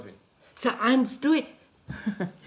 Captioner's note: laughs